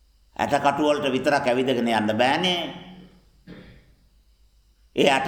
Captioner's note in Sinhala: උගුර කෑරීම